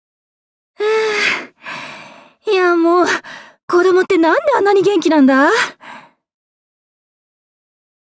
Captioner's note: sigh